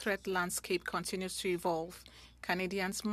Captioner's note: speaking French